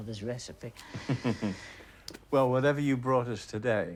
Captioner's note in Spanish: risas